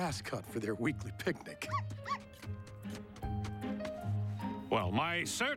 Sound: chuckling

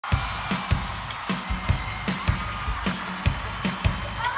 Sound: applause and cheering, upbeat pop intro plays

